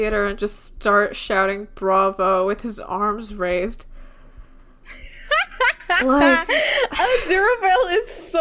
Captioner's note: laughing